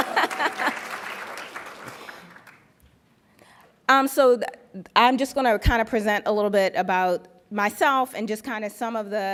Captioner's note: applauds; laughs